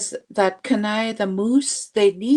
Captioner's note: speaking Indigenous language